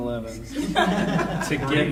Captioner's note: audience laughing